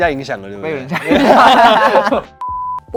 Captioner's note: haha